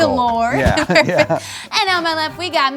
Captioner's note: laugh